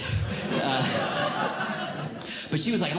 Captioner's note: audience Laughing